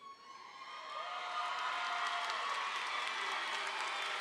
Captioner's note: audience applauding